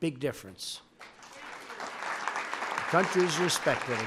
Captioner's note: applause